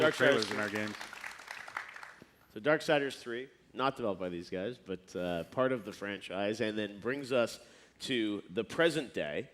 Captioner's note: applause